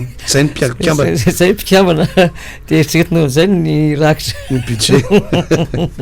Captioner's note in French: rire